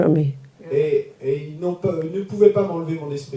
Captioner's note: audience member speaks in French